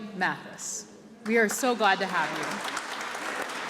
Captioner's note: clapping